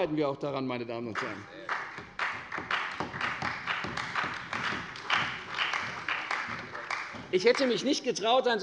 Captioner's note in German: Beifall bei der CDU und dem BÜNDNIS 90/DIE GRÜNEN